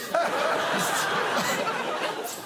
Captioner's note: laughter